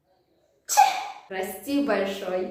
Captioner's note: sneezes